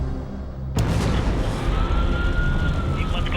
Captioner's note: sirens